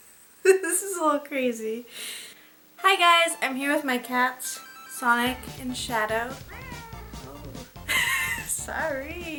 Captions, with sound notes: This is a little crazy Hi guys! I'm here with my cats Sonic and Shadow (meow) Oh Sorry!